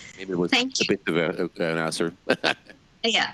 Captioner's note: laughs